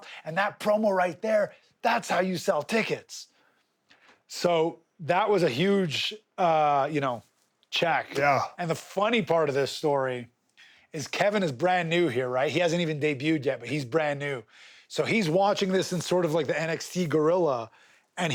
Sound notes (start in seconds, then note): none